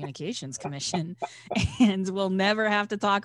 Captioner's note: guest laughs